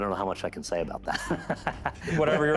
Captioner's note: laughter